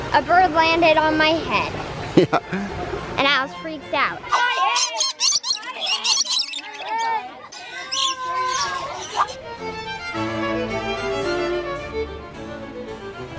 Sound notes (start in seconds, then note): 2.2 chuckles; 4.3 birds squawking; 6.9 squeals; 9.4 elegant classical instrumental